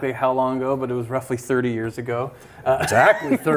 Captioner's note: laughs